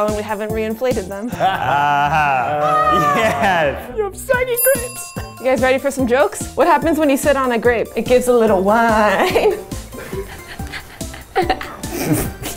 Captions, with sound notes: and we haven't reinflated them. (laughing) - Ah ha, yeah. - You have saggy grapes. (bell rings) - You guys ready for some jokes? What happens when you sit on a grape? It gives a little whine.